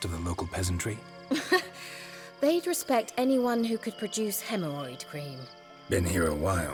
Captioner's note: scoff